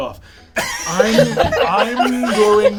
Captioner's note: all laugh